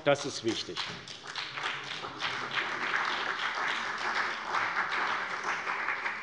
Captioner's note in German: Beifall bei der CDU und dem BÜNDNIS 90/DIE GRÜNEN